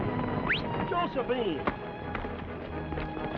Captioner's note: whistle